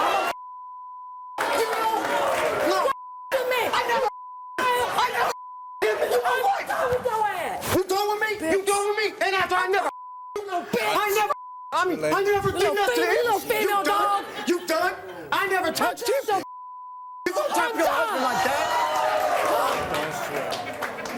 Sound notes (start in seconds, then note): 1.3 angry exchanges